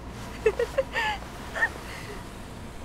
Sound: Claire laughs

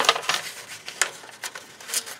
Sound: paper crinkles

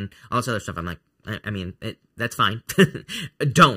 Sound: chuckling

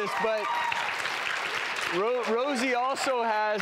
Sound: audience applauding

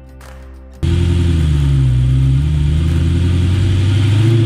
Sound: instrumental music; engine revs

